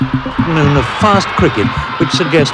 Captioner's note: crowd cheering